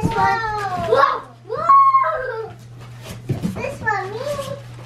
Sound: kids exclaiming

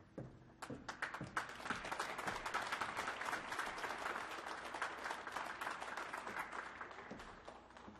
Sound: applause

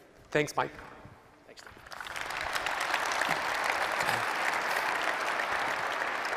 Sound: applause

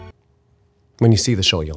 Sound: music stops

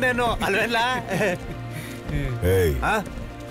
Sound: laugh

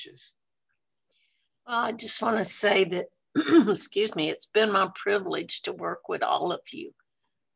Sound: coughs

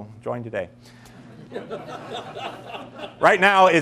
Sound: laughing

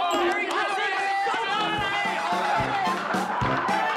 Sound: yelling; screaming

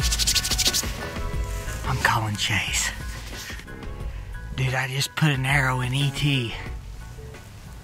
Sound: whispering

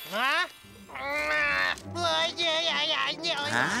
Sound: babbling

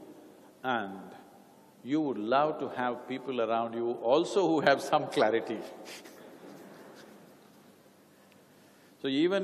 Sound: laughter

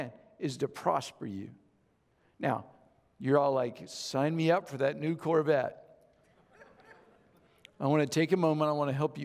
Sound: audience Chuckles

